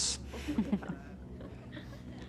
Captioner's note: chuckling